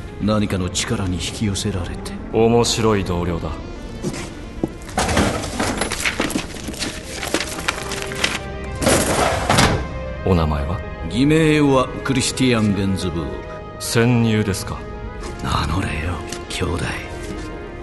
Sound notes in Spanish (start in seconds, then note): 4.9 gabinete abriendose; 8.7 gabinete cerrándose